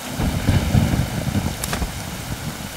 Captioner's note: Clouds thundering